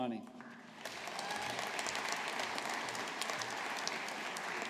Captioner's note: audience applauding